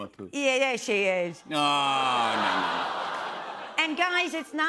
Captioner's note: laughter